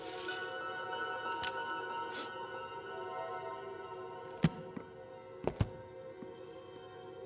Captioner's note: eerie music continues; Chef sniffs